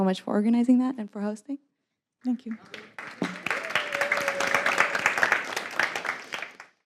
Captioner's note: applause